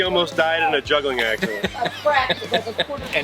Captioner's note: laughs